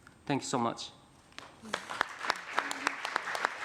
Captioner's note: applause